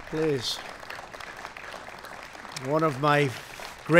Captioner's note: applause